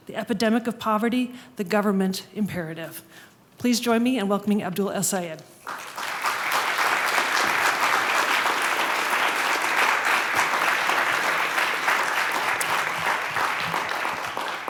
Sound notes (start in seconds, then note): 5.9 applause